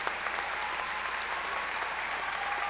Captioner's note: cheers and applause